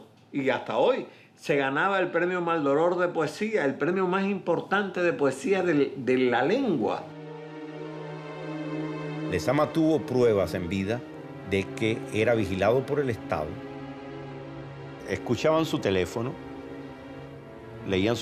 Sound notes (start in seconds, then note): 10.2 speaking Spanish